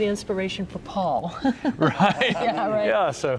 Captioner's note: laughs